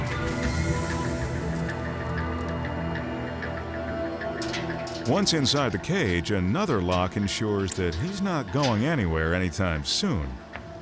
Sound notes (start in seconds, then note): 4.4 cage door clanking